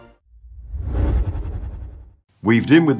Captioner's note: whoosh sound